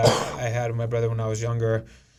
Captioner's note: coughing